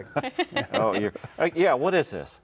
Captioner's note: laughing